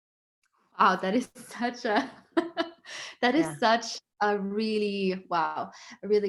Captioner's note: laughs